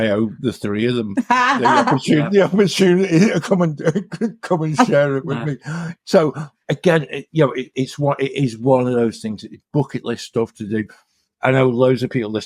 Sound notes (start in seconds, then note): 1.2 laughter